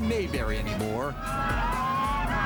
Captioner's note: cheering